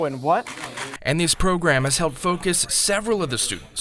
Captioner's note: voiceover